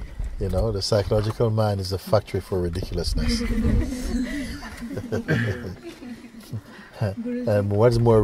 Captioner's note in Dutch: gelach